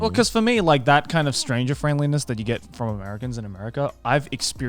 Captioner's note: none